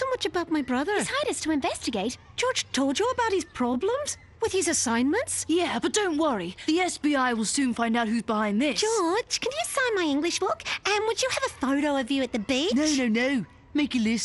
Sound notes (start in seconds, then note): none